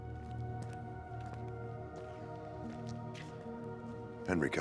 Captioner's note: footsteps tapping